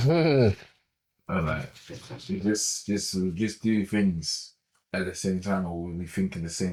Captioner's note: laughs